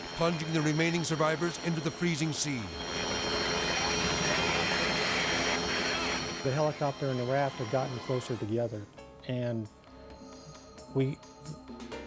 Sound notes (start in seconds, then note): 2.6 helicopter rotor whirring